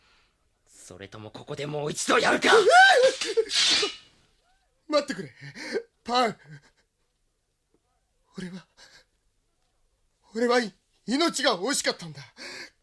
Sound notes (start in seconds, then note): 2.8 SFX: sword unsheathed